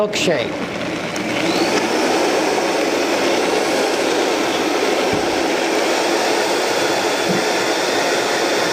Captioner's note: blender whirring